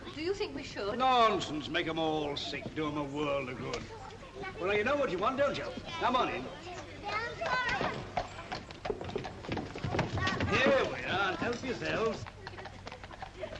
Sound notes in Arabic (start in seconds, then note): 5.6 أصوات الأطفال; 6.5 صوت حوافر الخيول; 8.7 صوت حوافرها